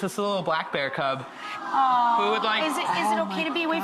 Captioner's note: crowd awws